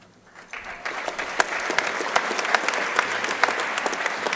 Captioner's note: crowd applauding